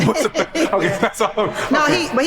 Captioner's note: laughs